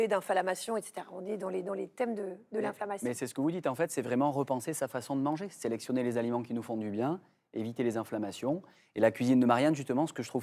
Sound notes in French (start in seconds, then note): none